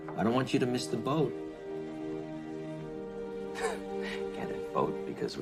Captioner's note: chuckling